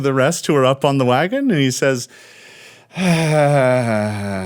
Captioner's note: long exaggerated sigh